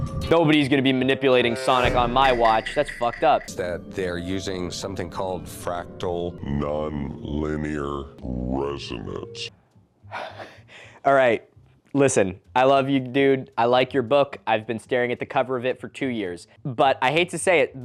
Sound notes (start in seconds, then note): 1.6 among us sus noise; 5.6 getting progressivly slower and lower pitched